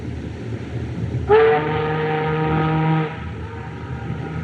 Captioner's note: ship's Horn Blows